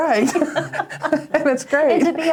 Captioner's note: both laugh